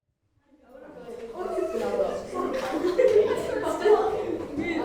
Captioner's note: students chattering